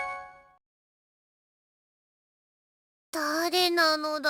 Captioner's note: silence